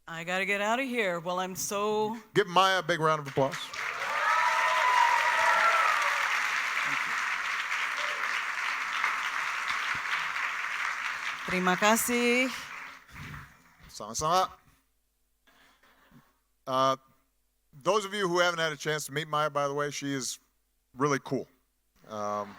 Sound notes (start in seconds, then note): 3.3 audience applauding and cheering; 11.7 speaking foreign language; 14.1 Barack Obama speaks a foreign language